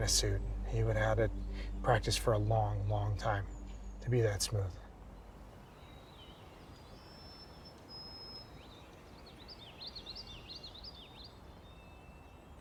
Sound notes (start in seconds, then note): 5.7 birds call; 5.7 insects chirp